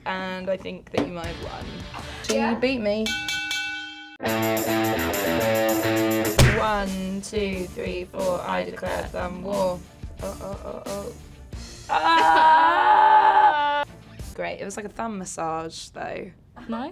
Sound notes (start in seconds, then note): 3.0 bell rings; 4.2 dramatic music; 11.8 groans